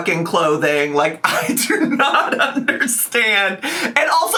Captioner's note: laughs